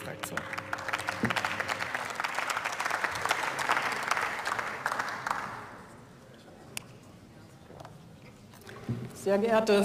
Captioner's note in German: Beifall